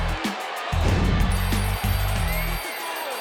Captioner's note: text whooshing; crowd cheering; upbeat music